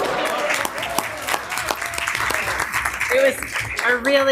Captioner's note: people clapping